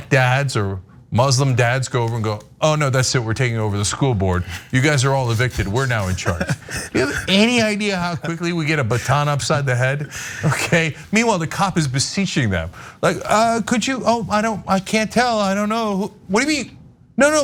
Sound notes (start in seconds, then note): 5.5 laugh